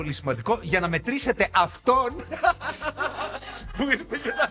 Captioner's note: laughs